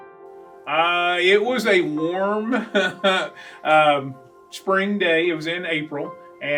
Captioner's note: laughs